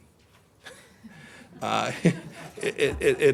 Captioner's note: laughter